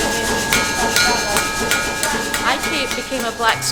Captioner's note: steel clanging